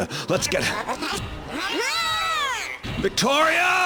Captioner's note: Viktoria screams